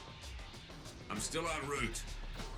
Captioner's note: over comms